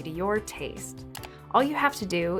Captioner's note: mouse Click